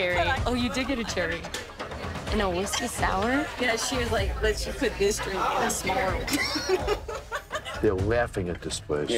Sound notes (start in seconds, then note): 6.3 women laughs